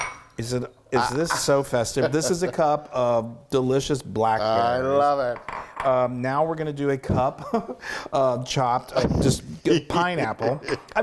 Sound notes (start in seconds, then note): 1.8 laugh